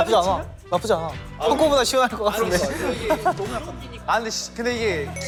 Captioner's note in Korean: 부히히힛